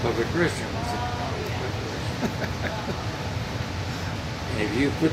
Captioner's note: murmurs